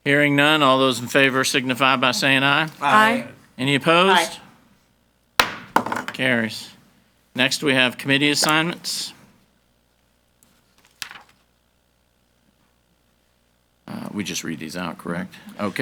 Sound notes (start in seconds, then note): 5.4 gavel banging